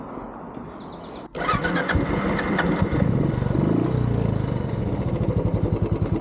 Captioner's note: engine starting